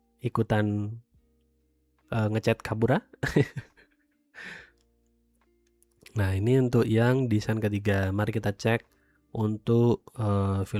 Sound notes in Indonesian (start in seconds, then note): 3.4 tertawa; 4.4 terkesiap